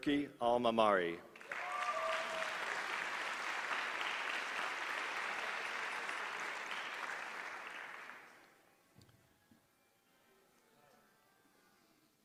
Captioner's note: applause